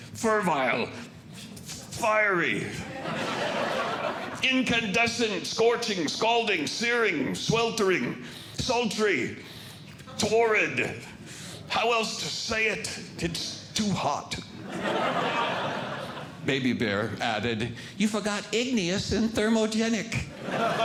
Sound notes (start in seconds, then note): 2.8 audience Laughing; 14.6 audience Laughing